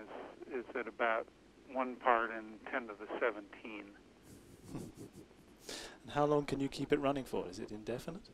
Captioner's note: laughs